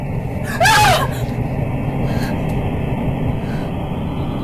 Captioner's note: Kate shrieking